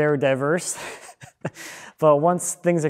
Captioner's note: chuckling